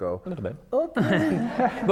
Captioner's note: laughter